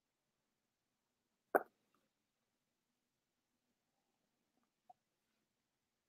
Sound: speaks portuguese

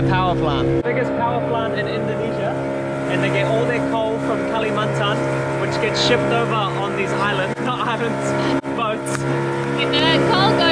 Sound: laughs

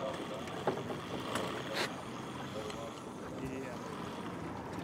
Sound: reel spinning

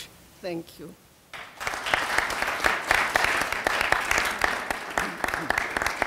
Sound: audience applauding

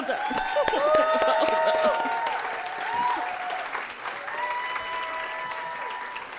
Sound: audience applauding and cheering

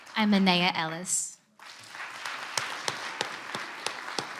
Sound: clapping

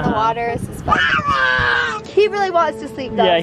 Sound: screams

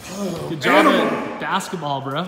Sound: grunts

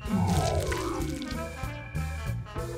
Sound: electric static

